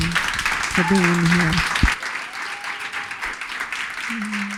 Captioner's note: audience applause